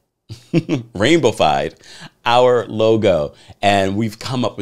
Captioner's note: laughs